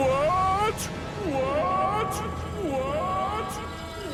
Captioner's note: echoing